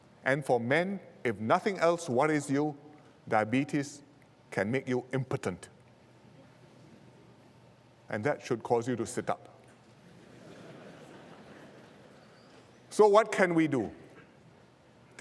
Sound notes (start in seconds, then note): 10.0 laughter